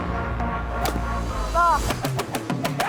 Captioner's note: club whistling; upbeat music